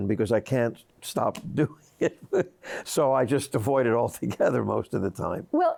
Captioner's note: laughs